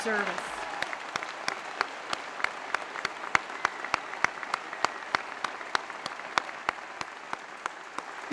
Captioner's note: applause